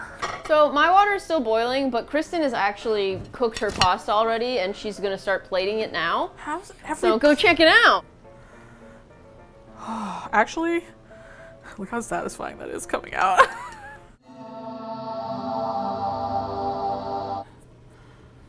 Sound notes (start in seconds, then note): 13.3 laughs; 14.2 cinematic Music